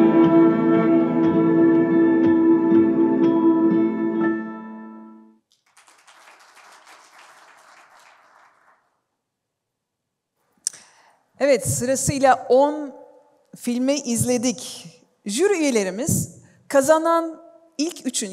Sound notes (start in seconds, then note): 5.4 applause